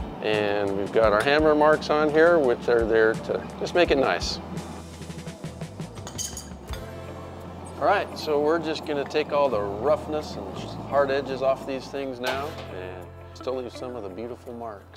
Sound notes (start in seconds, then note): 6.0 metal clangs; 6.5 upbeat music